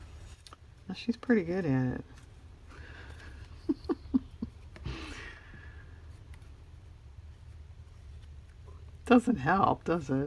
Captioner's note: laughs